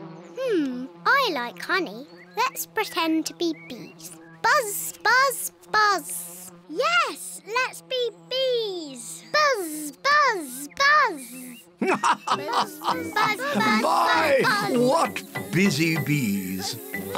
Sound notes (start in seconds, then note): 11.8 laughs; 16.2 oinks